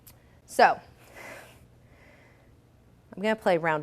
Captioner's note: sighs